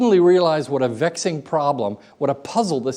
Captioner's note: none